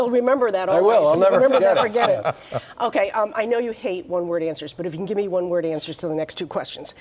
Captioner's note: laughter